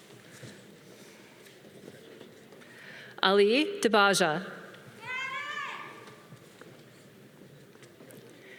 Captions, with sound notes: Ali Debajah. (woman cheering)